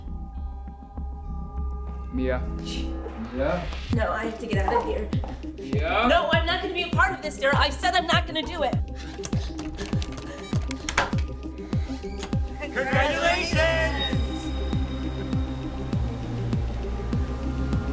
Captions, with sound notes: - Mia, Mia? - No, I have to get out of here. - Mia! - No, I'm not gonna be a part of this, Darrell. I said I'm not gonna do it. (remote beeping) - Congratulations! (sinister music)